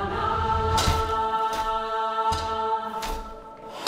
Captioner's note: ice crackling